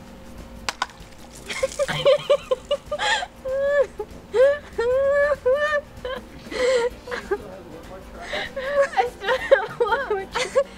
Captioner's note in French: rires